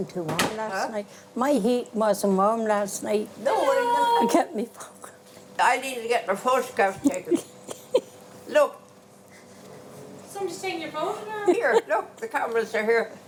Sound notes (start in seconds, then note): 5.1 voiceover; 11.8 voiceover